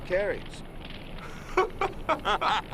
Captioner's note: laughing